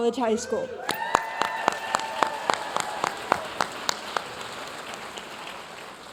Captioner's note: audience cheering and applauding